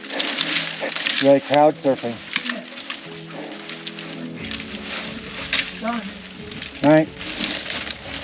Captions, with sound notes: We're like cloud surfing. (branches rustling)